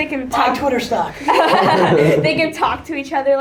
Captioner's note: laughter from everyone in room